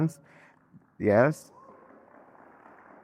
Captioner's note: audience clapping